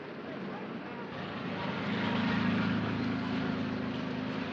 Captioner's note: street noise